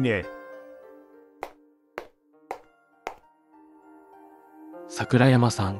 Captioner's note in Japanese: ヒールの靴で歩く音